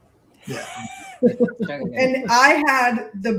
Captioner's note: laughter